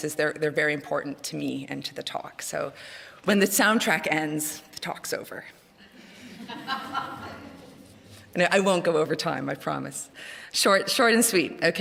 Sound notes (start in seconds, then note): 5.9 laughter